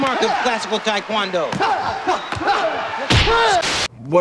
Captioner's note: both exclaim; static crackles